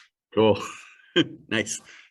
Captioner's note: chuckle